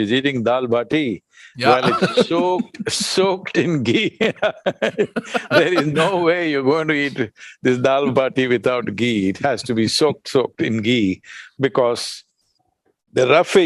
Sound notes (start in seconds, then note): 2.3 laughs; 3.9 laughter